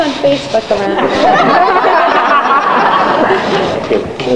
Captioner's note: audience laughs